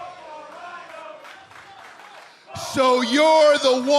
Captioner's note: fans chanting